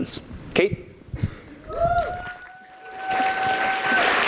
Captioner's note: audience applauds